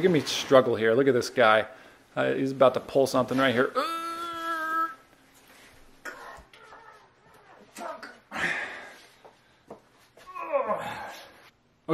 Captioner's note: expletives grunted